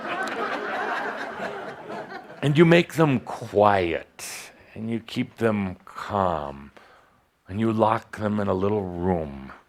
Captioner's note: laughter